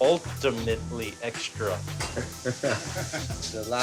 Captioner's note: chuckles